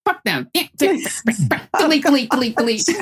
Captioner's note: laughing